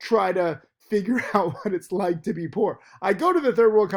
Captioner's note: laughs